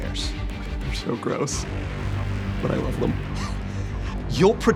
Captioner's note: chuckles